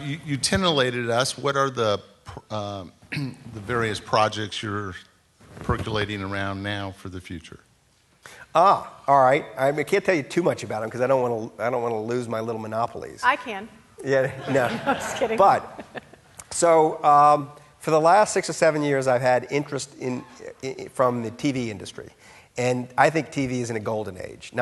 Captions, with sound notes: - You tenanted us what are the the various projects you're percolating around now for the future? - All right. I can't tell you too much about 'em cause I don't wanna lose little monopolies. - I can. - Yeah, no. (laughing) - I'm just kidding. - But, so for the last six or seven years I've had interest in, from the TV industry. And I think TV is in a golden age,